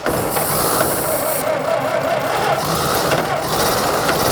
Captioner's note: engine shutters